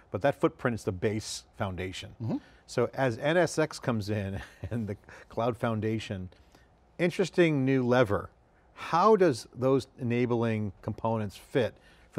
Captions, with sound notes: but that footprint's the base foundation. So as NSX comes in, (laughs) and the cloud foundation, interesting new lever. How does those enabling components fit